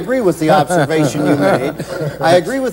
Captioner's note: laughter